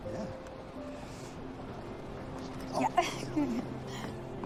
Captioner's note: chuckling